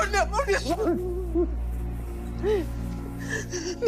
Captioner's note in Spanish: Sollozos